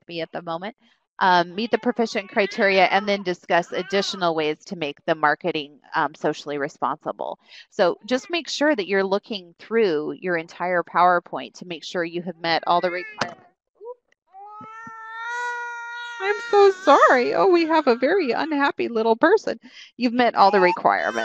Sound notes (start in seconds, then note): 14.4 baby crying